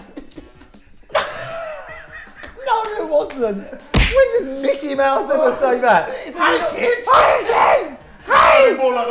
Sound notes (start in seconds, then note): 1.0 laughing